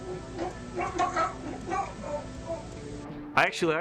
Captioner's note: gagging